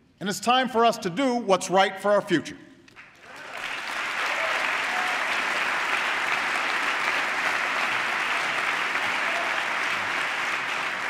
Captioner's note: applause